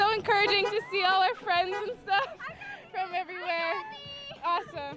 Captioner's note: honking